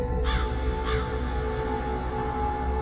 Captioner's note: crow cawing